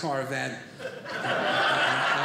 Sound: audience laughing

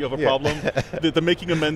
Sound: chuckling

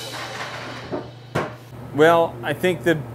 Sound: lid creaks; lid thuds

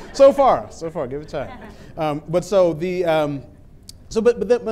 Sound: laughter

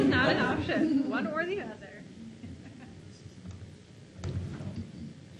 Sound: laughs

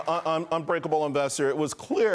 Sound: applause

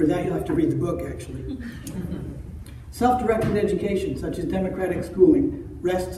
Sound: laughter

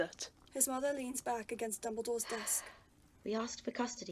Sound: Euphemia sighs

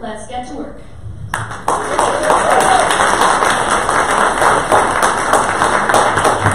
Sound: audience applause

